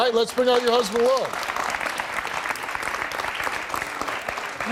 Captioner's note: audience claps